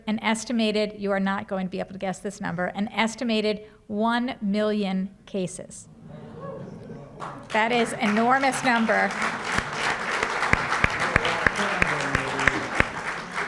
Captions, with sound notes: an estimated-- you are not going to be able to guess this number-- an estimated 1 million cases. That is an enormous number. [APPLAUSE]